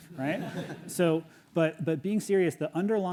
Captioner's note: audience laughs